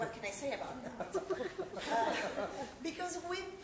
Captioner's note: laughter